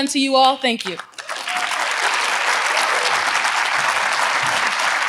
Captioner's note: audience applauds